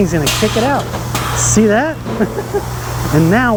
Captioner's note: laughs